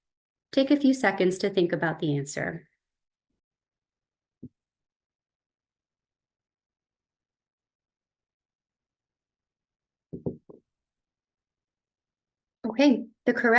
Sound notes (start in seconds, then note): 3.1 silence